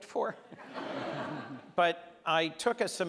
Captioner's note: audience laughs